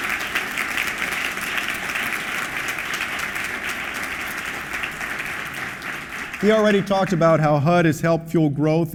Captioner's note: applause